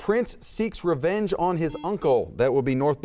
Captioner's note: buzzer beeps